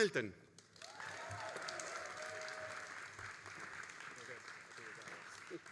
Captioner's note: all applauding and cheering